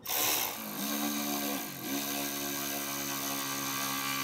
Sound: tool whirring

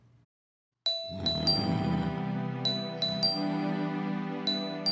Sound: snoring

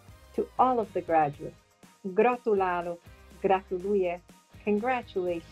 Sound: non-english speech

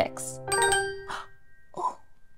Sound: chime

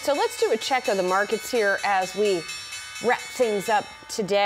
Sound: bell

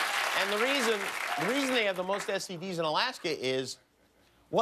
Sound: applause

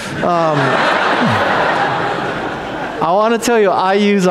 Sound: audience laughs

